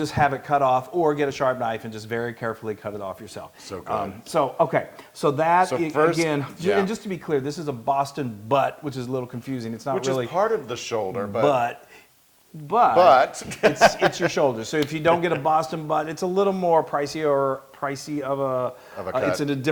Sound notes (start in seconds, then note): 13.0 laughs